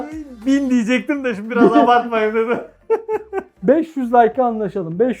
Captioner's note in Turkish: kahkaha